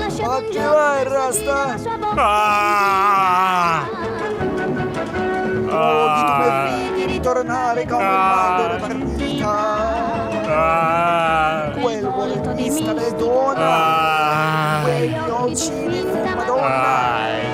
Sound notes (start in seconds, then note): 2.1 groaning; 6.8 singing; 10.4 groaning; 12.3 singing; 13.5 groaning; 15.7 singing